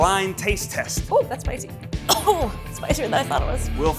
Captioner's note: coughs